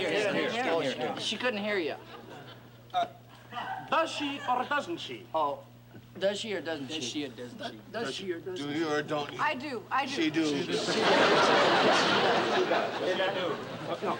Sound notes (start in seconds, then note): 10.7 laughter